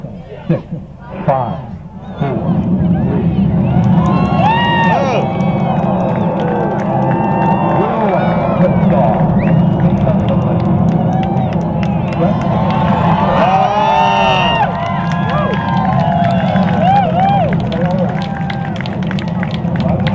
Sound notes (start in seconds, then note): 2.7 engine roars; 3.6 crowd cheers; 9.7 crowd cheers and claps